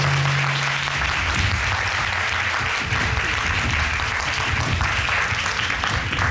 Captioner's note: audience applauding